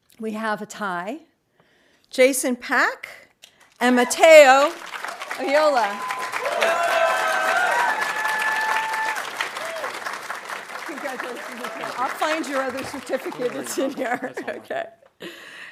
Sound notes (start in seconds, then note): 6.3 audience cheering and applauding